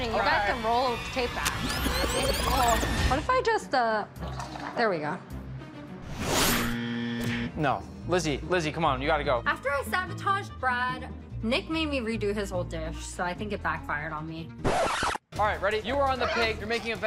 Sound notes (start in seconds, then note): 6.7 buzzer buzzes